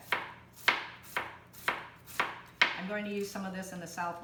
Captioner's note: chopping